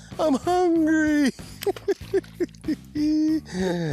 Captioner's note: laughs